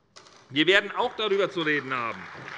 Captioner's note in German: Beifall bei der SPD